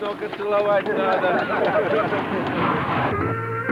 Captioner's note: laughter